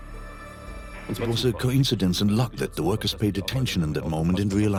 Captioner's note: dubbed in English